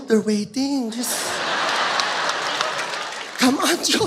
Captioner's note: audience laughs